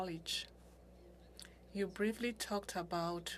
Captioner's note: speaking French